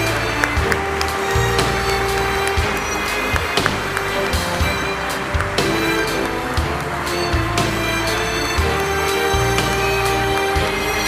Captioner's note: applause